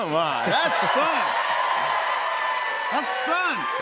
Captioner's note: cheers and applause